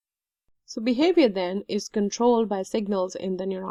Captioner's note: voiceover